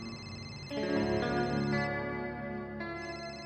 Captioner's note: phone ringing